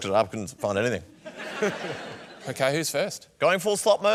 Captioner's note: laughter